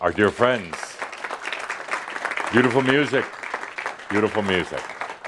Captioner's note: audience applause for Gerhard and Einat